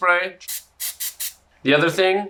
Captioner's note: cooking spray spritzing